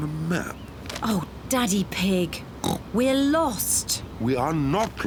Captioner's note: oinks